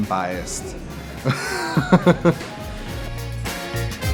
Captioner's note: laughing; bright music continues